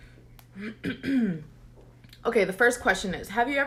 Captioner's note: clears throat